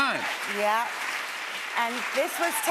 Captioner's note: applause